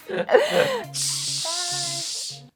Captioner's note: hissing